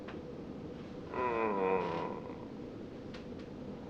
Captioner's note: loud moan